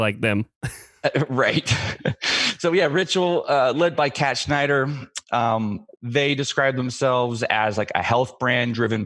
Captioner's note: laughs